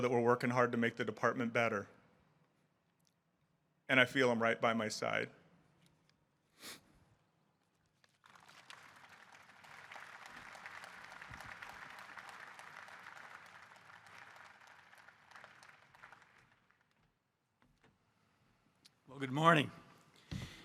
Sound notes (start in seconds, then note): 6.5 sniffling; 8.2 audience applauding